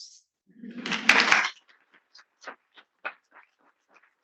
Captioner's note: attendees applauding